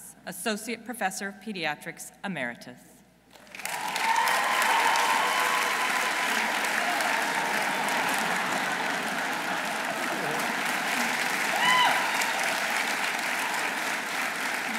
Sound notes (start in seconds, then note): 4.1 audience applauding; 4.1 audience cheering